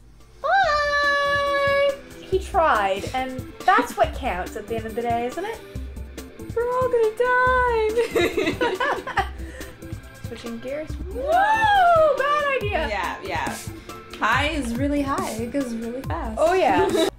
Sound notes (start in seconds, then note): 0.9 theme music fades in; 8.0 laughter